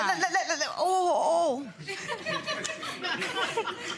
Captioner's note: laughing